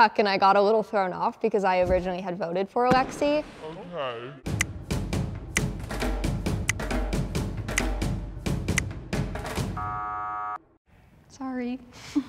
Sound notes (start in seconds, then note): 4.5 marching band music; 4.9 finger snapping; 9.7 buzzer sounding